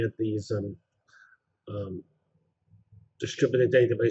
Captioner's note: pause